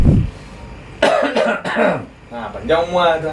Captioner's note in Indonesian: suara Batuk